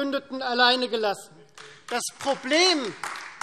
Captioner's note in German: Beifall Freie Demokraten und AfD